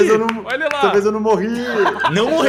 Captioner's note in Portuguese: Risada